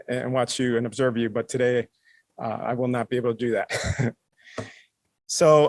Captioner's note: laughs